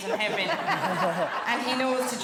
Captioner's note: guests laughing